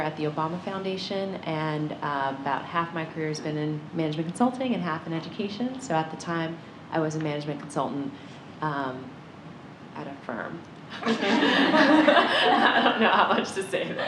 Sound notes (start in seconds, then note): 11.0 laughter